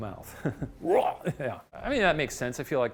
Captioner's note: imitates retching